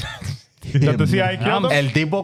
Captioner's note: laughing